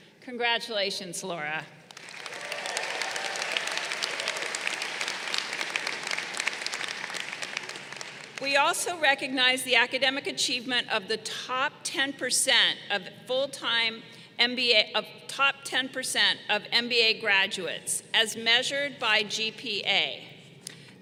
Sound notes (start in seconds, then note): 1.9 crowd applauding